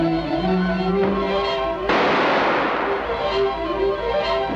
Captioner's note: gun fires